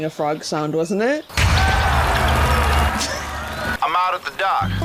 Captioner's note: canned cheering